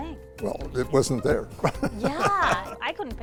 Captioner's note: laughs